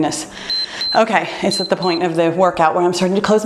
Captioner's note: timer beeps